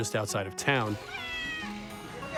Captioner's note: cat meows